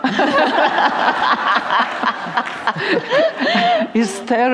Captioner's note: laughter